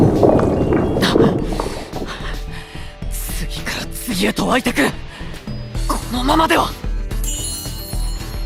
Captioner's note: pant, pant…